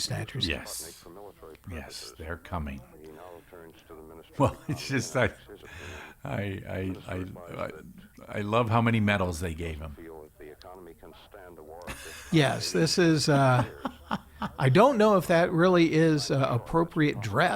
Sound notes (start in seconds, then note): 2.8 laughs; 11.8 laughing